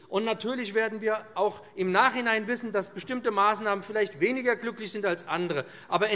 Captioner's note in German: none